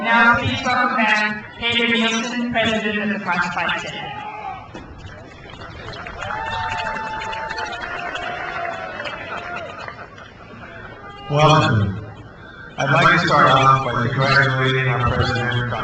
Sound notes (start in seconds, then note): 0.0 crowd cheers; 5.2 crowd applauds